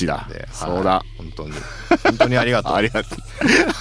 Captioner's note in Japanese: 笑い